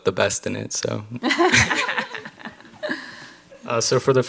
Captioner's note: panel laughs